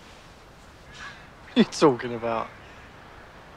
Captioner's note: laughs